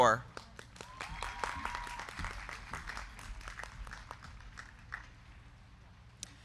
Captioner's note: crowd clapping; crowd cheering